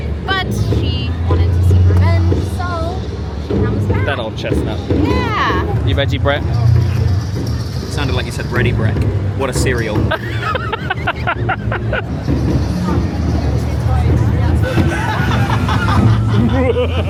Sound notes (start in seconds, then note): 10.1 laughing; 12.5 guests chattering; 12.5 upbeat music; 14.6 laughing; 16.8 laughs wickedly